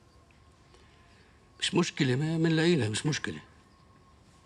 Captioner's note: speaks arabic